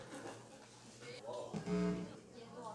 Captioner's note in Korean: 전기 신호 음